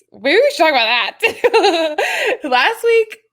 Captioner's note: laughs